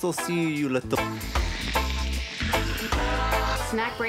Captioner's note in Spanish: lengua sorbiendo